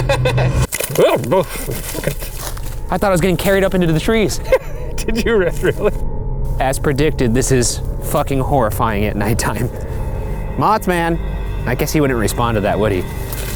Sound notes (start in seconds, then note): 0.0 laughs; 1.5 exclaims; 4.2 laughs